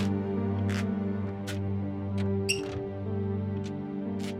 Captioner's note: floor creaking